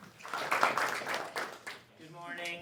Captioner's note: applause